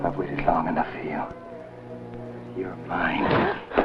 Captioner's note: shouts